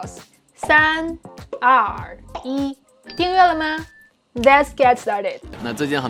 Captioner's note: speaking in Mandarin; speaking in Mandarin